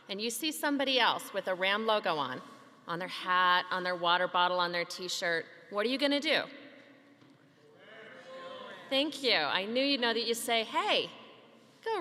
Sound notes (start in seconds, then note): 7.8 audience faintly answering